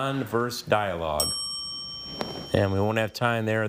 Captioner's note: bell dings